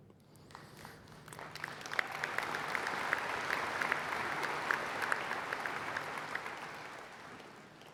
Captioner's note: applause